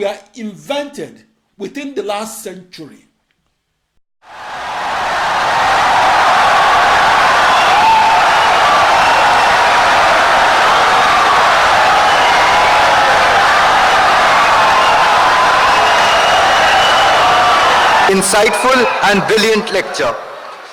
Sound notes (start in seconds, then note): 4.1 wild applause and cheering for 17 seconds